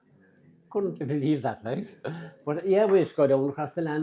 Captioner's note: laugh